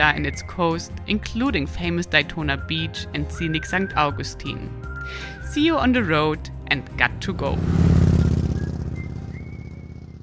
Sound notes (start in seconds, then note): 6.8 bike roaring